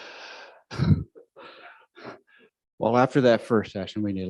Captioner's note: chuckles